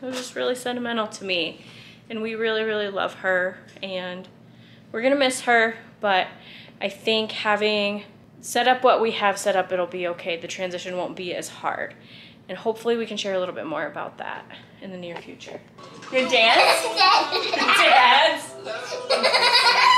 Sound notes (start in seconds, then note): 16.1 laughs